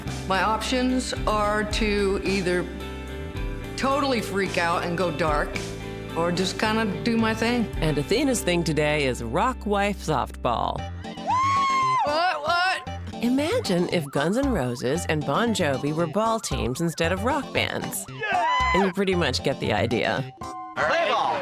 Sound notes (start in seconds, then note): 18.2 cheering